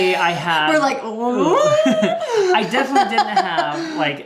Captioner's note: squeals